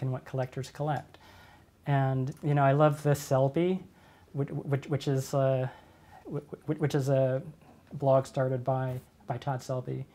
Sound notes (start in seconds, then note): none